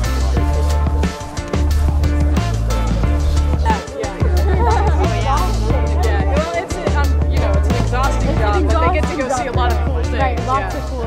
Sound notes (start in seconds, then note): 0.1 bold music; 5.0 crowd chattering